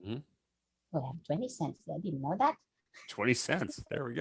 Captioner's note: chuckles